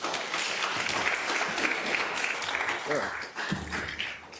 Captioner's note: attendees applauding